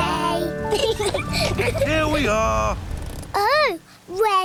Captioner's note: both laugh